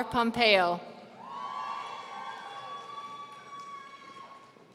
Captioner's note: audience cheering